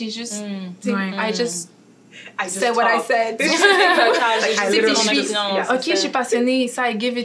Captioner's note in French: rires